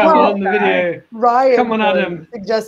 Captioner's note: murmurs